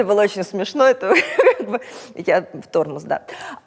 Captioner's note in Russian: Через смех